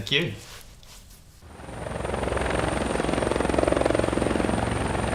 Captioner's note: helicopter whirrs